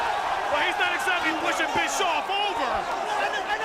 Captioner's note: crowd cheering